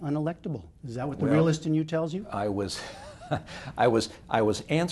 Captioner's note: chuckles